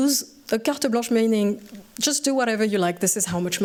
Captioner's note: french